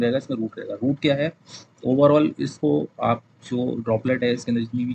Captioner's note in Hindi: नाक से की जाने वाली आवाज़